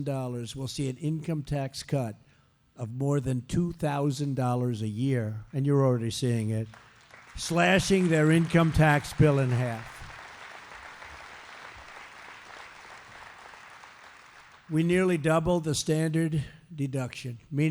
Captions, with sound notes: will see an income tax cut of more than $2,000 a year -- and you're already seeing it -- slashing their income tax bill in half. (Applause.) We nearly doubled the standard deduction,